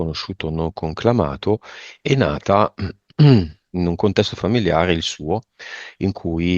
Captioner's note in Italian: schiarire la voce